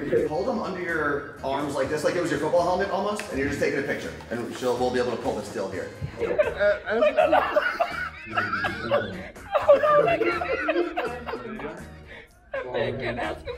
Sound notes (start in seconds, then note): 8.5 muttered laughing